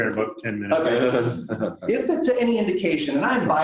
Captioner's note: laughter